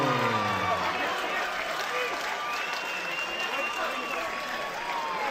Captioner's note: cheers and applause